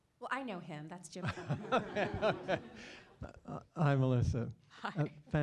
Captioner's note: laugh